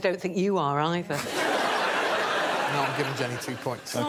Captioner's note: laughter